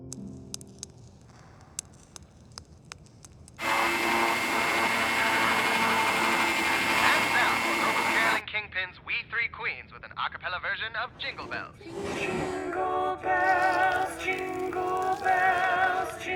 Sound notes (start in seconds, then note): 0.1 liquid dripping; 3.6 electric mixer whirring